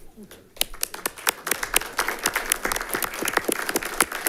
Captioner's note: all clapping